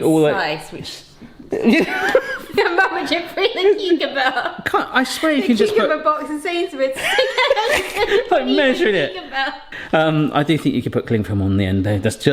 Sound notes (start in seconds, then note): 1.5 laughs awkwardly; 6.9 laughs